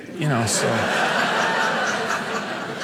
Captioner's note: audience laughing